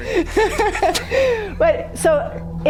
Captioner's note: laughing